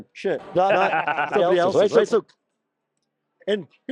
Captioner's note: laughter